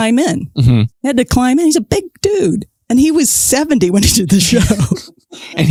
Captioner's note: laughs